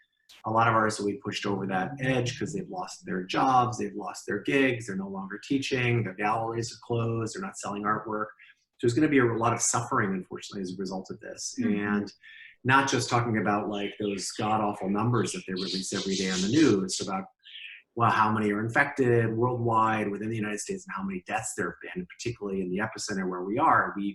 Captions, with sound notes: A lot of ours will be pushed over that edge because they've lost their jobs. They've lost their gigs. They're no longer teaching. Their galleries are closed. They're not selling artwork. There's going to be a lot of suffering unfortunately as a result of this and not just talking about like those god-awful numbers [birds chirping] that they release every day on the news about well, how many are infected worldwide within the United States and how many deaths there have been particularly in the epicenter where we are.